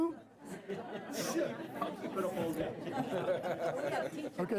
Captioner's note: laughter